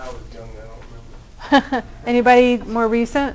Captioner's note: laughter